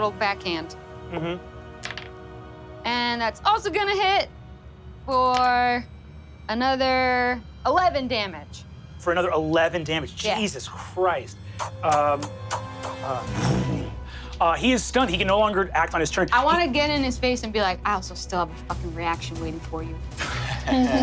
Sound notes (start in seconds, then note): 11.4 imitates blows; 20.5 all laugh